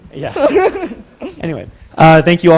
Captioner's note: laughs